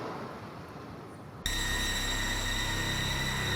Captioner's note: phone ringing